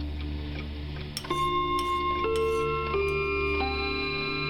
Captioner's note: clock chiming